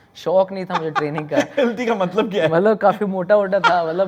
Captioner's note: laughing